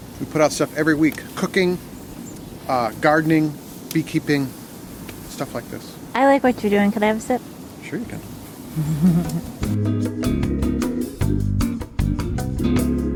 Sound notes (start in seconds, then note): 8.7 woman laughing; 10.4 smooth jazz